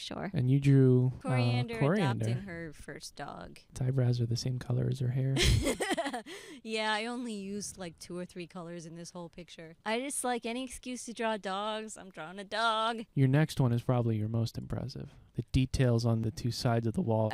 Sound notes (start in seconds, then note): 5.4 laughing